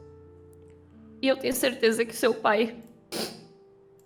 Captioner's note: sniffle